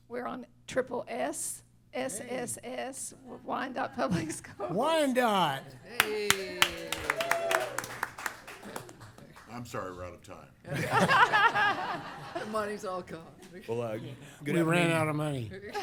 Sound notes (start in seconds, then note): 5.9 applause; 10.6 laughter